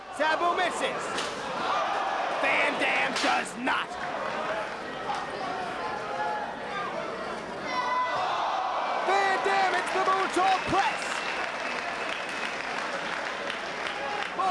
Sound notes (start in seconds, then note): 0.0 spectators exclaiming; 7.7 spectators exclaiming; 11.2 spectators applauding